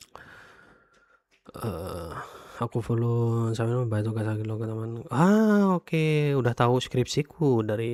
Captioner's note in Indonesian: menghela napas